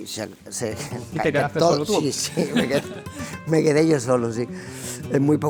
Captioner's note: laughs